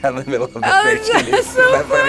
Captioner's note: laughs